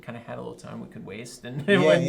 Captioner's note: laughs